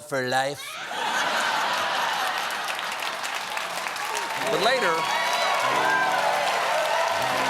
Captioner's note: laughter; cheers and applause; piano riff